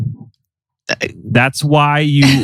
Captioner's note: laughs